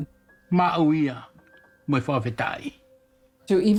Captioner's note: speaking in local language